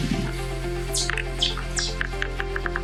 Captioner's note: birds chirping; deer walking